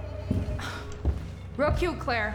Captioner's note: sinister music continues; Rachel sighs